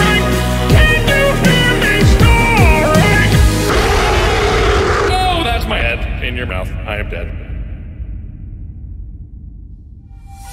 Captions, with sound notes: Can't you hear me snoring? *SCREEEEE!* Oh, that's my head In your mouth I am dead...